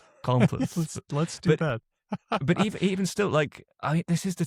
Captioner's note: laughs